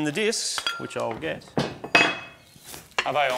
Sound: metallic clattering; thuds

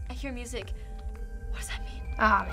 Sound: faint music; whispering

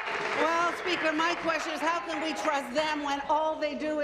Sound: applause

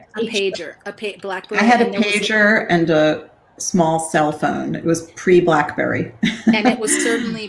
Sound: chuckle

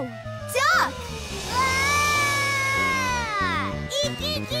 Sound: screaming

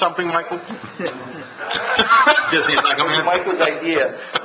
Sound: laughs

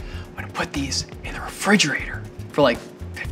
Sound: whispers

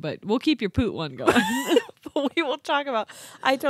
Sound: laughs

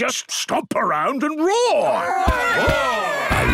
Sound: all roaring

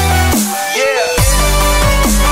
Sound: echoes

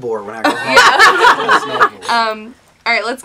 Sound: laughs

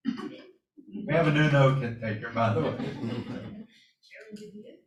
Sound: laughter

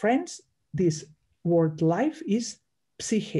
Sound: speaks in Greek

